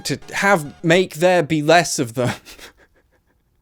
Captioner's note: laughs